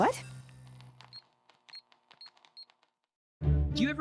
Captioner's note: computer keys clacking, beeping